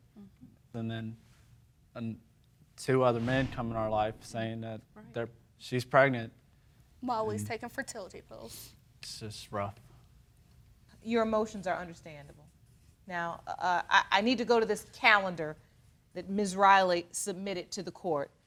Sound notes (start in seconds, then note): none